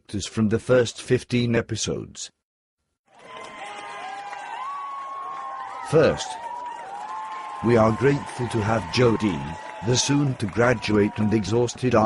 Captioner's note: CHEERING noise